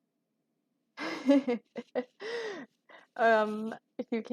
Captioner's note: laughing at comment